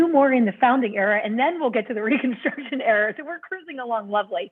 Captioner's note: laughter